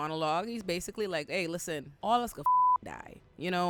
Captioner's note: beep